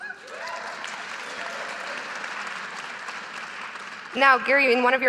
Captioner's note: audience applauding